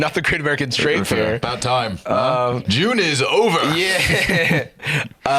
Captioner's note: laughs